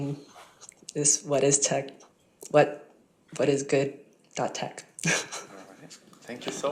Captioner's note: chuckles